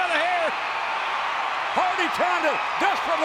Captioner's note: audience cheering